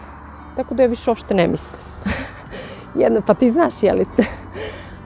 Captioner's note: jokingly